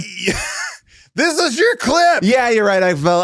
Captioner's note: chuckles